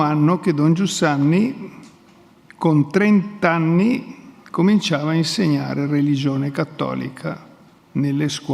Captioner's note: speaks in Italian